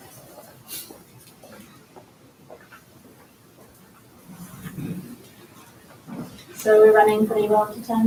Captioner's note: footsteps